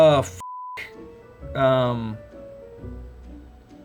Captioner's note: beep